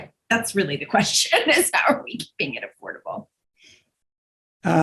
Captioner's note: laughing